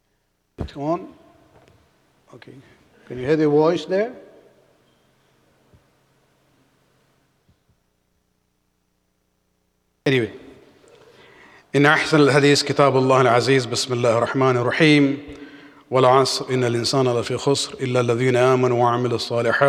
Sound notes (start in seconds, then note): 13.5 Arabic